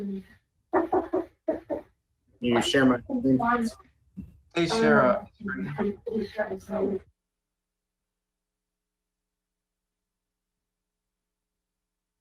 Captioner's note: interfering audio